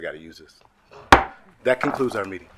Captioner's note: gavel slams